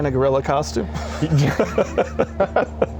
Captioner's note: laughs